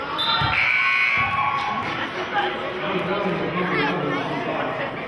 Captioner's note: whistling and buzzer sounding